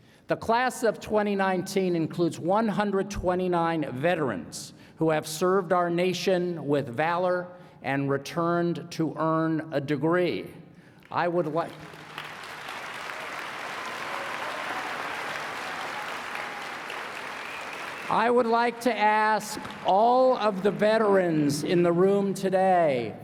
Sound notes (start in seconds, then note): 11.4 applause